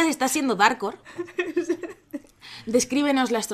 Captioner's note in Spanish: risas